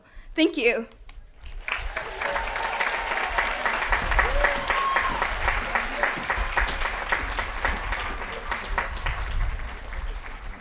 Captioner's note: applause & Cheering